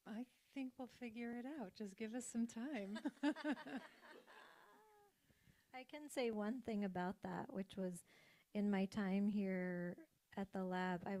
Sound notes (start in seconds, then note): 3.1 laughs